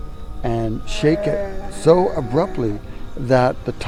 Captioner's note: Sasquatch growling